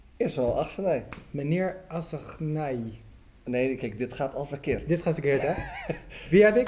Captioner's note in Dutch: Gelach